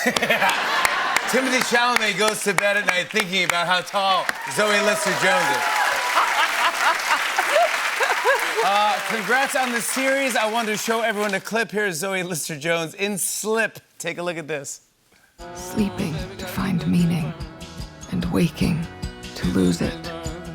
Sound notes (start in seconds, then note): 0.0 laughter; 5.1 cheers and applause; 6.1 laughs